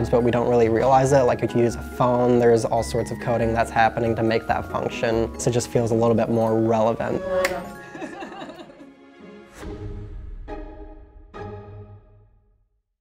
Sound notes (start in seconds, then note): 7.2 woman laughing; 7.3 hands clapping; 9.2 chiming music